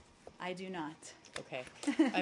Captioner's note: laughter